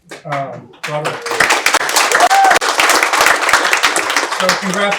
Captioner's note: audience cheering